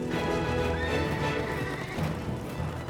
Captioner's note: horses whinnying